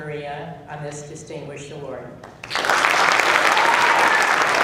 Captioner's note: applause